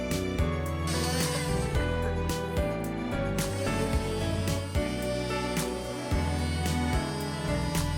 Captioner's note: DeWalt Multi Cutter - Sanding